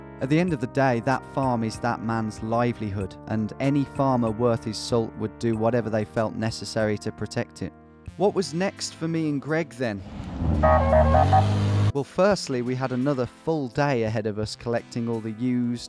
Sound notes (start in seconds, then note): 10.5 car horn honking